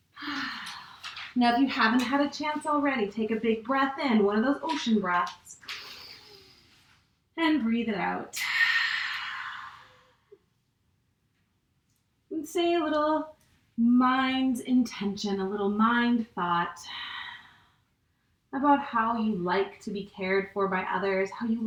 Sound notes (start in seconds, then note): 0.1 exhales; 5.7 inhale; 8.3 exhales